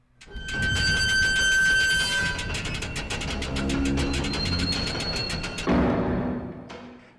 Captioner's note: mechanical sounds of a door lifting